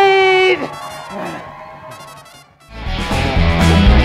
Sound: cheering

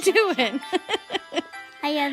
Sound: laughing

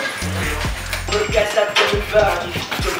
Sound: squabbling

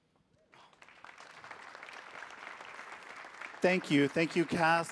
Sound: audience applauding

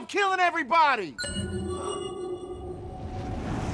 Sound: electronic chime echoes

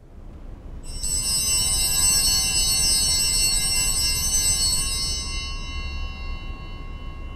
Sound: bells ringing

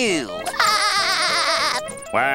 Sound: laughing

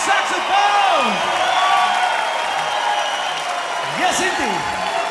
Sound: crowd applauding and cheering

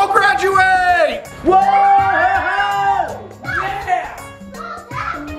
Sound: cheering

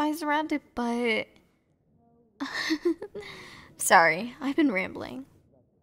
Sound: soft laugh

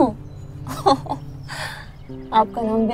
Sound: chuckles

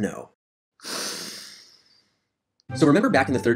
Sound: deep breath

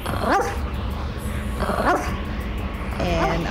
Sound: dog barking

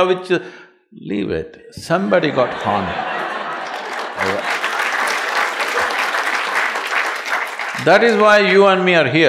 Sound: laughter/Applause

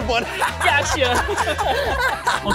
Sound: laughter

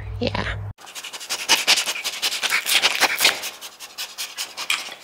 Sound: dog panting

